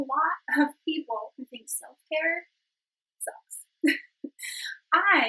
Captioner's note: laughs